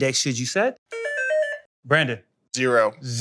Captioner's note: bell ringing